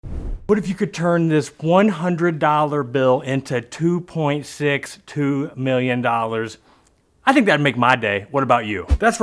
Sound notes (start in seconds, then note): 0.0 wind whooshing